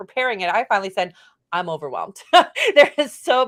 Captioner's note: laughs